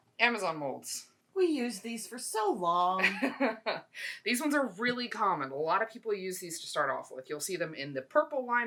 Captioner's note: laughs